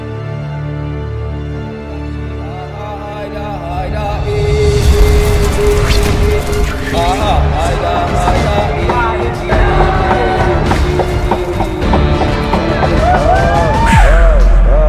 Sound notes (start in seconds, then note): 2.9 distant chanting; 10.7 chanting continues